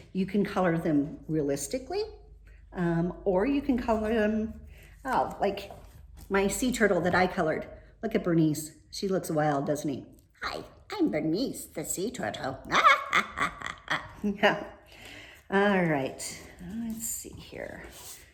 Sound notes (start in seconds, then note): 12.6 laughs